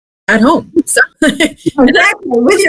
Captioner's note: laughs